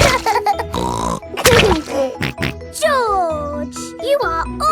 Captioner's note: laughs and snorts